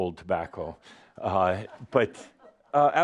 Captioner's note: a couple of giggles